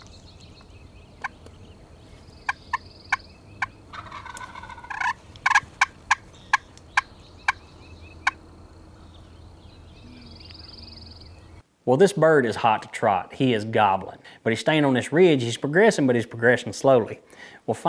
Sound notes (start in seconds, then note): 2.7 turkey call; 4.3 turkey gobble; 5.6 turkey call